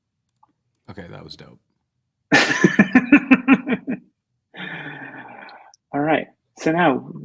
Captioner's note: laughter